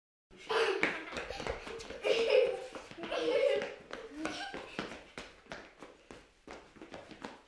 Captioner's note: laughter